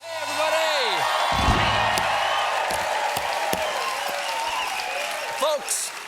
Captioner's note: cheers and applause